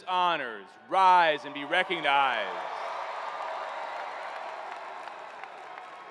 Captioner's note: cheering